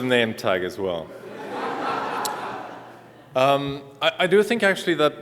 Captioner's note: laughter